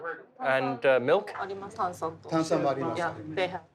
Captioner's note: speaking Japanese